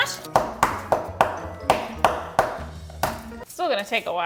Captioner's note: tool banging